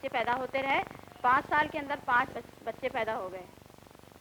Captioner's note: non-English speech